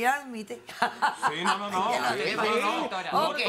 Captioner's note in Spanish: Risas